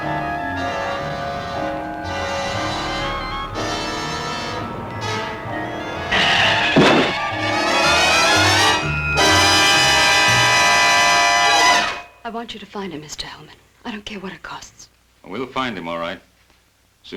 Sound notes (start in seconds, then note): 0.2 suspenseful music; 6.1 thudding; 6.3 tires squealing